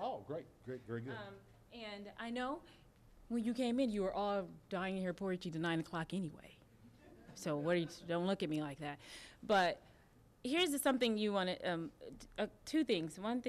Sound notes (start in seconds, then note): 6.8 audience laughing